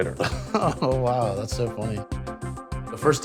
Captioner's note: chuckles